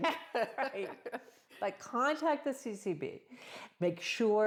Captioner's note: laughs